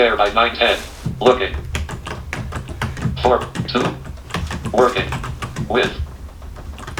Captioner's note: computer reads as hands type